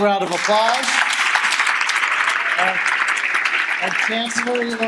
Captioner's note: clapping